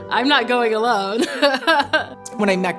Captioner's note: laughing